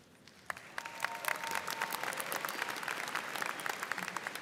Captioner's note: students applauding